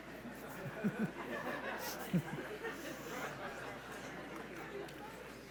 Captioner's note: audience laughs